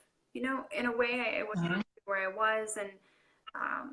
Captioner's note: speaker garbling